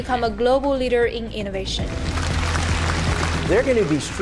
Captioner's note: applause